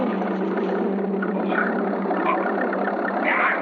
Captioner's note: bees buzzing; grunting